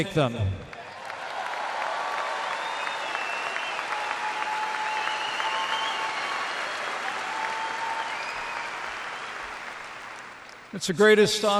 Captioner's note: applause